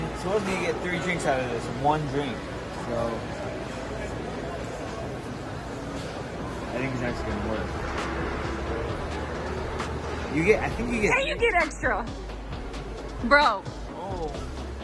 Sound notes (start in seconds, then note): 2.9 background chatter